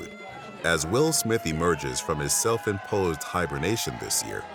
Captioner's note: crowd yelling indistinctly